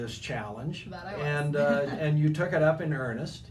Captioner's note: laughing